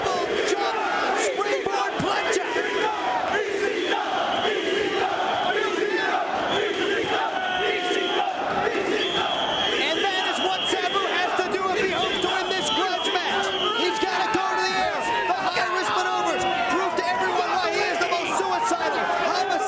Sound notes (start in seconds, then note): 2.6 spectators chanting "ECW!"